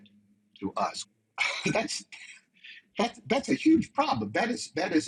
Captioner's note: laughs